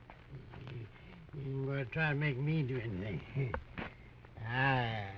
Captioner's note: slurring